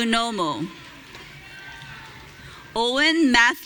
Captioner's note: audience cheering